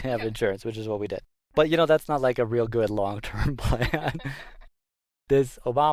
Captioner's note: laughs